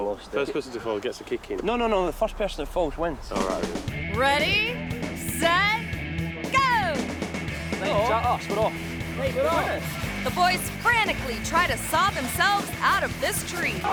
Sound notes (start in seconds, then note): 9.3 friends chattering